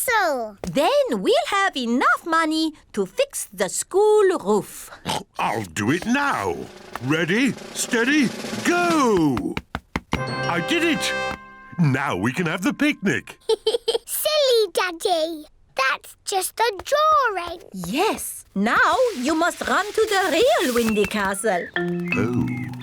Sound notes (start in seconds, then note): 4.6 oinks; 13.4 giggles